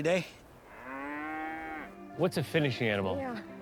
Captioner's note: cow moos